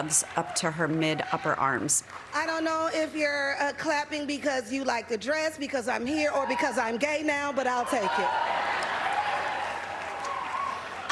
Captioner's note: applause